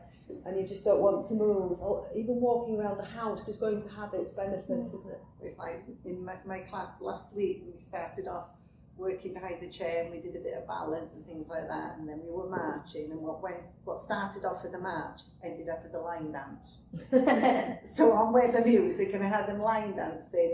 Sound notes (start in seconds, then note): 16.9 laughter